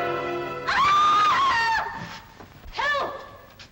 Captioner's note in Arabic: موسيقى درامية شريرة; صرخة امرأة